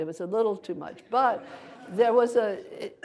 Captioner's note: audience laughter